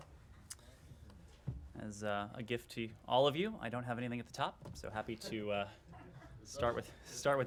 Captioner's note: laughter